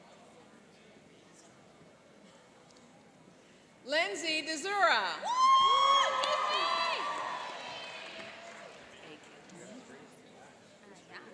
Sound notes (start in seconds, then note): 5.2 cheering and applauding